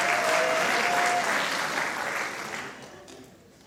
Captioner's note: applause